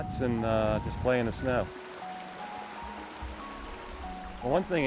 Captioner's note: stream gurgles